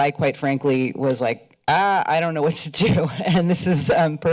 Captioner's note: chuckles